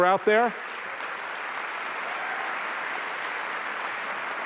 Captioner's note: applause